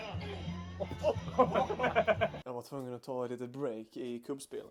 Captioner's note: laughs